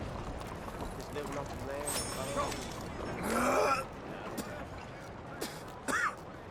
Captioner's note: Arthur smokes a cigarette but coughs violently as a result